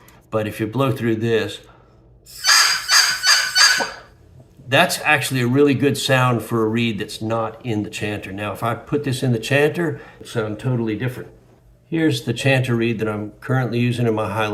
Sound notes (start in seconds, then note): 4.7 squawk, squawk, squawk, squawk